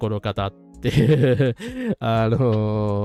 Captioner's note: laughter